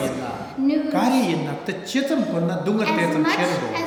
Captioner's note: speaking tibetan